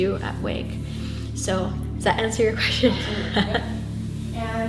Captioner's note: laughs